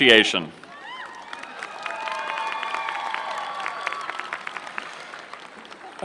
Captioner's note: applause